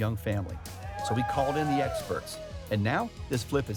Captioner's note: crew cheering